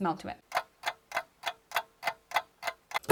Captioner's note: ticking clock